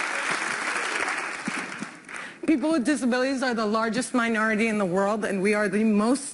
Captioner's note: applause